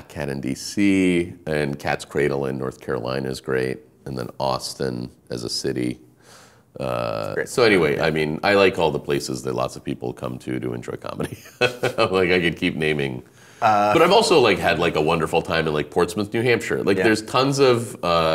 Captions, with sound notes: The Black Cat in D.C. and Cat's Cradle in North Carolina is great. And Austin as a city. So anyway, I mean I like all the places that lots of people come to to enjoy comedy. (laughing) I feel like I could keep naming, but I've also had like a wonder time at Portsmouth, New Hampshire.